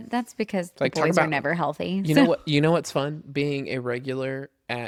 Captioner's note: laughs